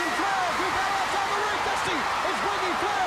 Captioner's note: crowd cheering